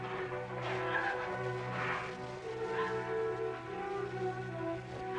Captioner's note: crying